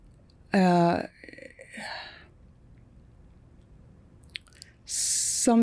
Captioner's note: sighing